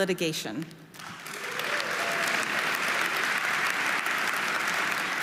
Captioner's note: audience applauding